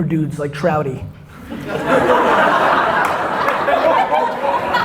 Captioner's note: audience laughter